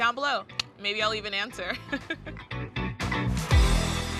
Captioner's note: chuckles